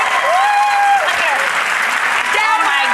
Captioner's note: cheering